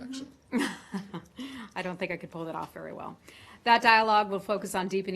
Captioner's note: laughter